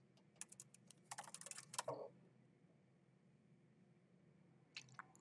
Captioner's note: keyboard clacking